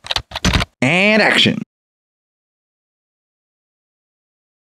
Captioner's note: typing